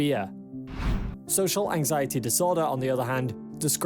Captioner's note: screen swishes